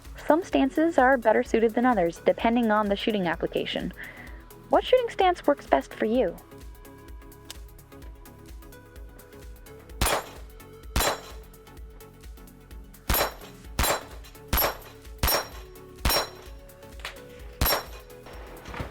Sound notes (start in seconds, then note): 11.2 gunfire pinging on steel